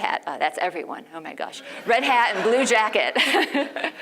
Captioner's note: laugh